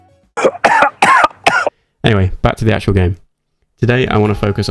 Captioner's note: coughing